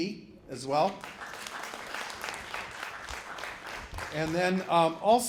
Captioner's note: applause